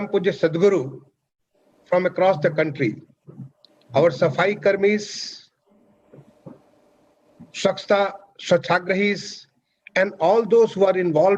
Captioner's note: speaks in Hindi – not transcribed